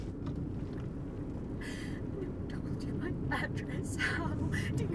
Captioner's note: gasping